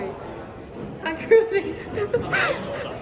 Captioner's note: laugh